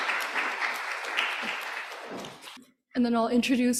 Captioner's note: applause